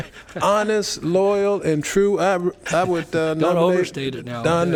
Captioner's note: laughter